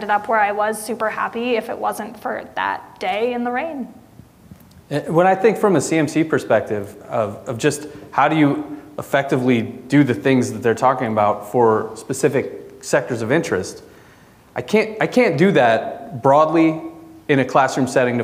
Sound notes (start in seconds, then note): none